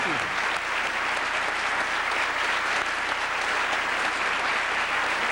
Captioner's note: applause